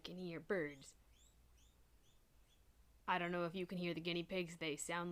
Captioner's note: guinea pig screeching